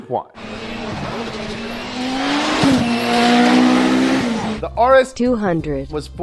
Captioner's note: engine growling, roaring